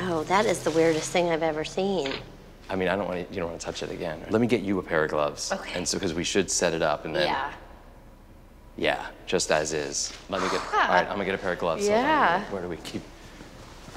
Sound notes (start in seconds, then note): 10.3 sighs